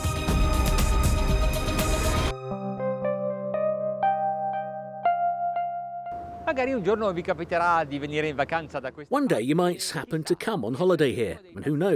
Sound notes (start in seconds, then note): 0.0 upbeat music; 6.7 speaking foreign language